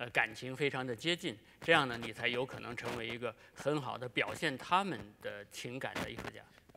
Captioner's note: speaking in Chinese